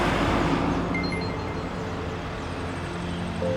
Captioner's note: text notification chime